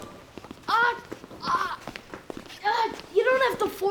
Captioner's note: grunting